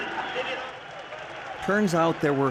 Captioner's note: speaking in background